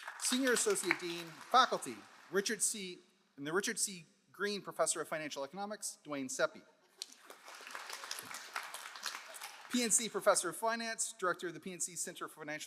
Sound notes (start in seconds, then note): 7.0 all applauding